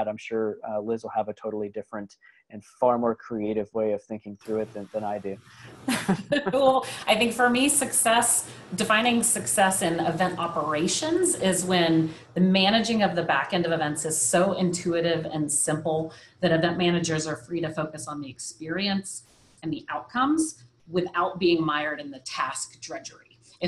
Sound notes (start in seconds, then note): 5.8 laughs